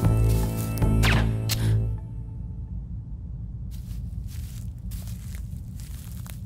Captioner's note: Quinn gasps; gun fires